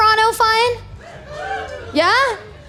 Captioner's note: woo